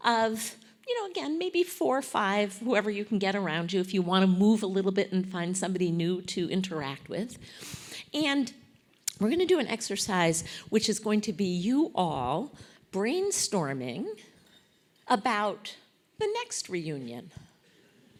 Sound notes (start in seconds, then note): none